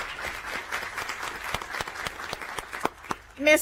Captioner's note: applause